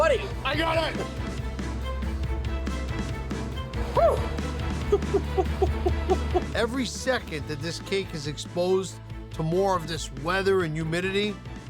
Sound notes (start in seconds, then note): 1.8 dramatic music; 4.8 laughs